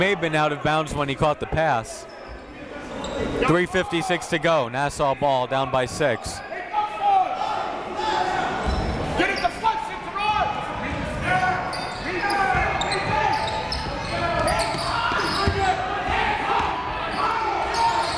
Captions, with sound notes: He may have been out of bounds when he caught the pass. 3:56 to go, Nassau ball, down by six. (crowd talking) (coaches yelling)